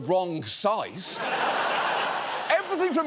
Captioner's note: studio audience laughs